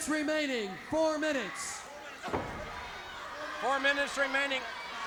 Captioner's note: crowd chattering